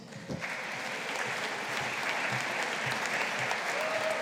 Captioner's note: audience applauding